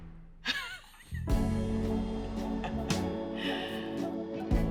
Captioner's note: laughing